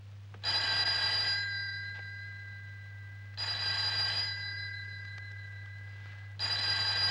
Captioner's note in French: trilles téléphoniques